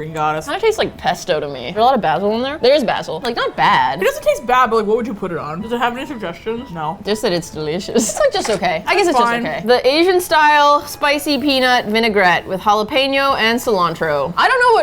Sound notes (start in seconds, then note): 7.9 laughs